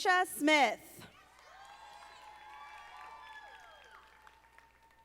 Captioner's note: audience applauding